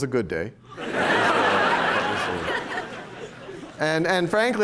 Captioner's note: laughter